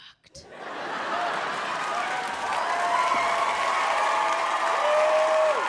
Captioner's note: audience laughing and clapping